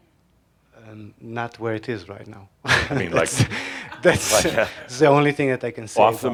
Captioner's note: he chuckles